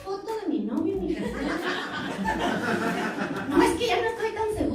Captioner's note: laughter